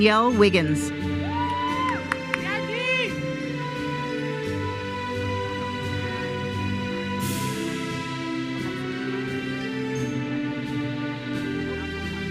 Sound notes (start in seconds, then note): 1.2 audience cheers and applauds